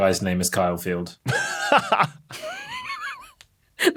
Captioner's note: wheezes; laughs